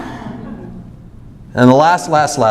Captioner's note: audience laughs